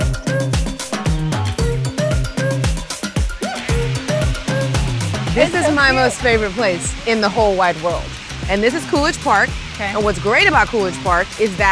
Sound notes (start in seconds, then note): 2.7 water rushing